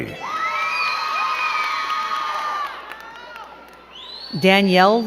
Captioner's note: crowd cheering and clapping